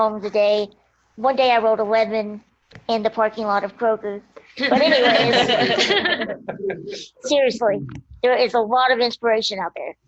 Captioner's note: laughter